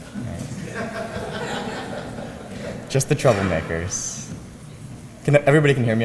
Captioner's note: laugh